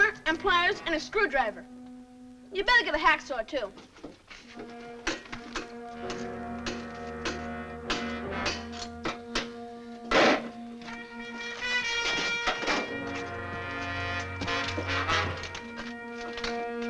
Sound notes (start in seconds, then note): 7.8 banging; 13.7 suspenseful music